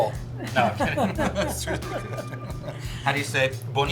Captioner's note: laughs